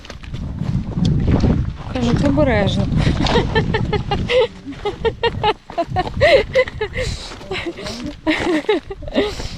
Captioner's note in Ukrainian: сміх